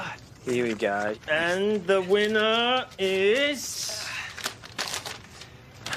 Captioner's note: groans